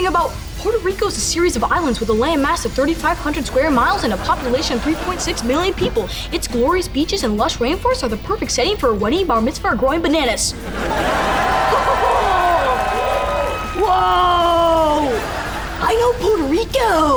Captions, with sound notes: Puerto Rico's a series of islands with a land mass of 3500 square miles and a population of 3.6 million people. It's glorious beaches and lush rain forests are the perfect setting for a wedding, bar mitzvah or growing bananas. [chuckles] Whoa. I know Puerto Rico.